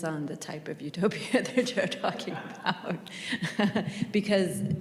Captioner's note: chuckles